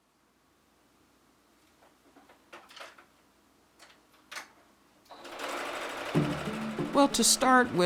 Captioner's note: sewing machine